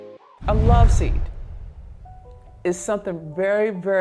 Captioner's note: air whooshing; lulling piano music